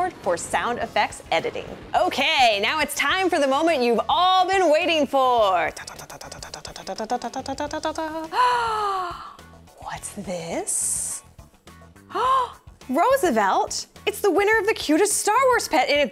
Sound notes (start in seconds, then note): 5.7 drumroll sound; 8.3 gasp; 12.1 gasp